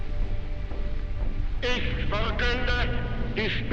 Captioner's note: speaking in German